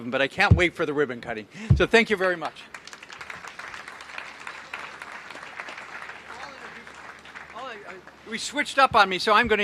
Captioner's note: applause